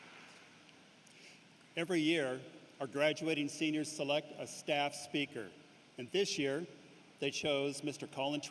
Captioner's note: applause